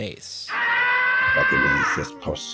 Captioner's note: screaming